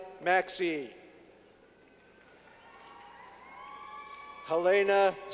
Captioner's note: clapping